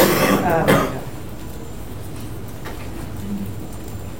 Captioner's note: coughing